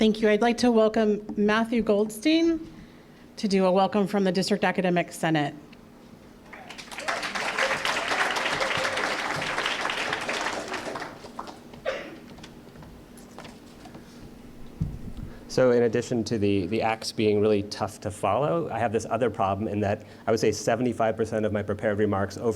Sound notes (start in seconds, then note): 6.5 applause